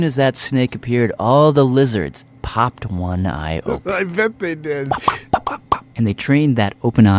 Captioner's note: laughs